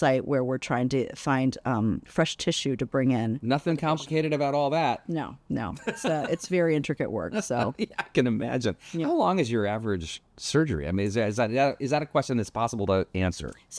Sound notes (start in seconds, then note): 5.8 laughs; 7.7 laughs